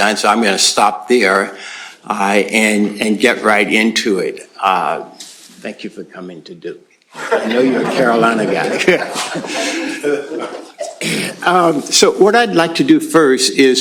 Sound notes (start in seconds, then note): 7.1 laughter; 7.1 laughs